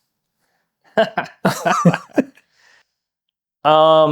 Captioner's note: both laughing